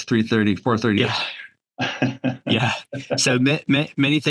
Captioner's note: chuckles